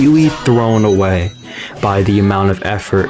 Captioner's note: inhales Oxygen